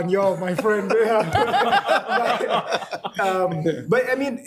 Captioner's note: alL laughing